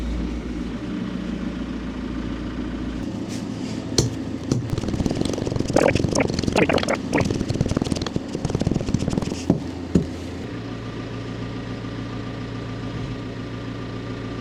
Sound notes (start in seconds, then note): 4.5 tamper tapping; 11.3 machinery rumbling